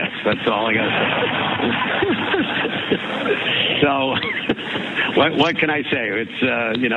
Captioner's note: laugh